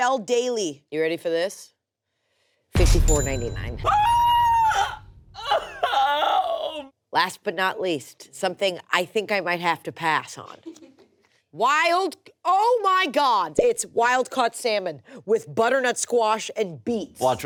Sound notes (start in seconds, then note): 3.8 exclaims